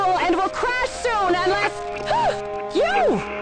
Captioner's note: gasps